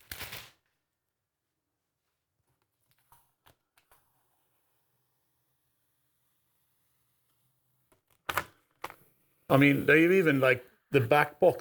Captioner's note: silence